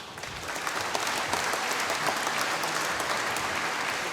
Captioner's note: applause